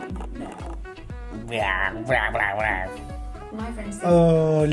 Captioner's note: TV noise